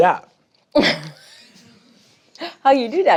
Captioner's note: laughs